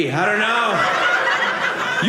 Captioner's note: audience laughing